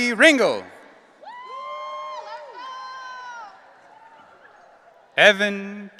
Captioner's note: audience cheering